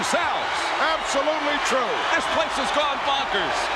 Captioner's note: audience cheering